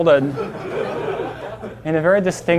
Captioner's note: class laughing